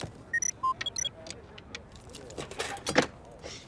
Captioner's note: beeping